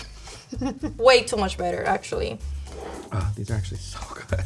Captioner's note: laughing